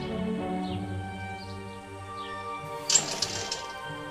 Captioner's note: birds singing